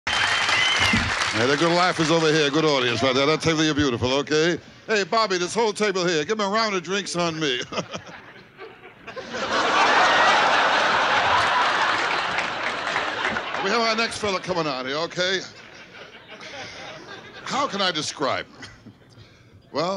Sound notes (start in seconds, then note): 0.0 audience cheering and applauding; 0.8 microphone thuds; 7.5 chuckling; 9.1 audience laughing and clapping; 15.9 audience laughing